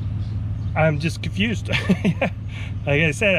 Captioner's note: chuckles